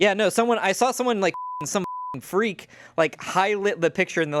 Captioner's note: beep